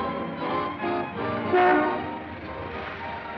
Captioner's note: honk